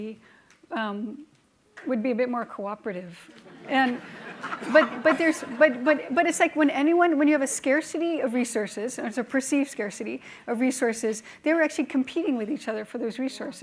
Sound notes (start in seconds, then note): 3.4 laughing